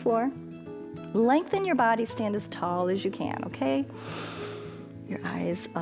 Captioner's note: inhales